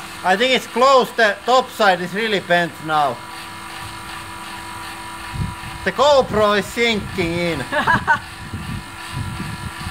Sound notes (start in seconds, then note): 7.6 laughs